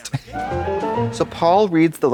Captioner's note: bright chime